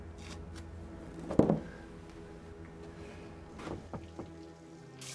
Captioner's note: dark ominous music; doormat thuds; tape rustling; knocking at door; water trickling